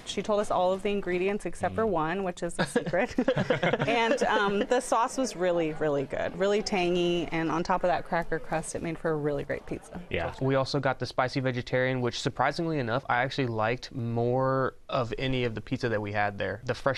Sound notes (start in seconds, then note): 2.5 laughter